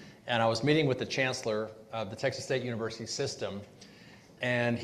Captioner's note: none